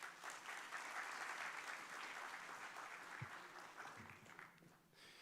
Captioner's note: applause